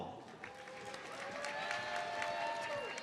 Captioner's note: audience applauds